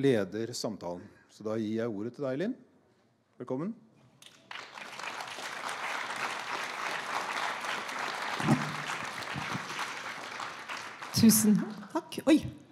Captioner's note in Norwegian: Applaus